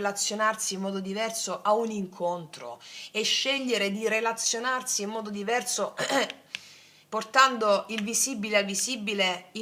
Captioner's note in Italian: schiarire la voce